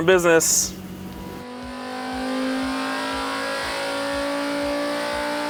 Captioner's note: car engine roaring